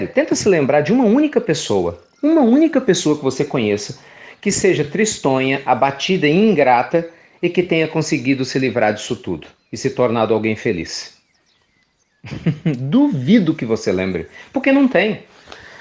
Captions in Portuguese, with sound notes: Tente se lembrar de uma única pessoa que você conheça que seja tristonha, abatida e ingrata, que tenha conseguido livrar-se disso tudo e se tornado alguém feliz. (Risos) Duvido que você se lembre! Porque não existe.